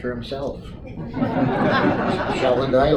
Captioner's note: audience Laughter